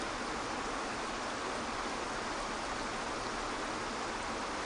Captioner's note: water rushing